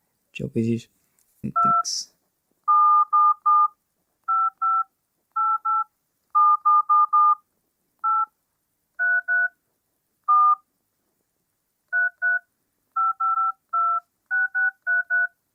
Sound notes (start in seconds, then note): 1.4 DTMF tones